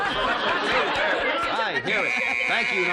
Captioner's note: laughter